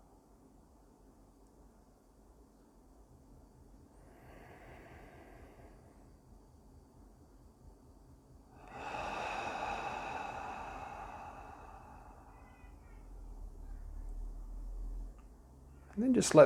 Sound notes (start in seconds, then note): 8.5 ahhh